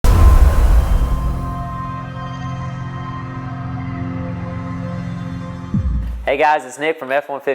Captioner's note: sound effect